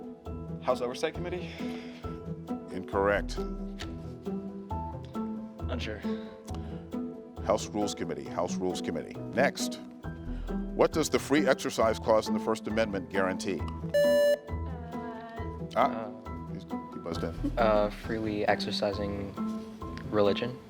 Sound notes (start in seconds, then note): 3.5 gentle music; 13.9 buzzer beeps